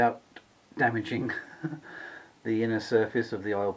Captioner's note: ha ha!